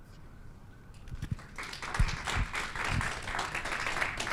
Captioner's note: applause